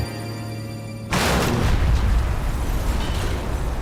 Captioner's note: crashing